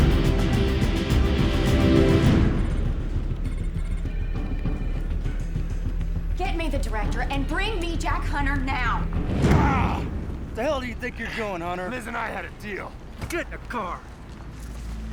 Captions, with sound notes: (phones ringing) - Get me the Director, and bring me Jack Hunter, now. - Ah. - What the hell do you think you're doing, Hunter? - Liz and I had a deal. - Get in the car.